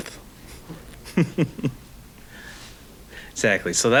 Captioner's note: laughing